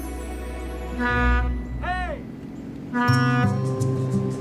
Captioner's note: horn honks